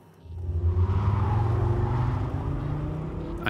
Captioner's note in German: Reifenquietschen